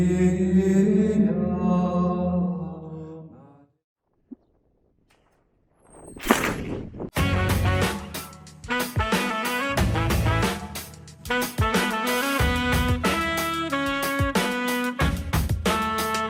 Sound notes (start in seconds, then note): 5.8 gunshot; 7.3 theme song